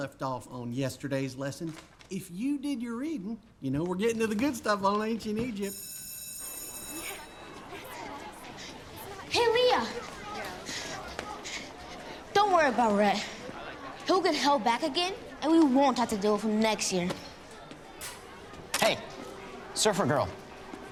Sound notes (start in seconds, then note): 5.6 bell rings